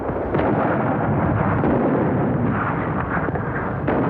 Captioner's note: guns thudding